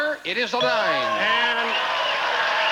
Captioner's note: audience applauding